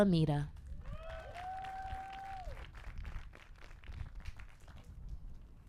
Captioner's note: applause